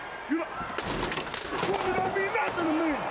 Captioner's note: none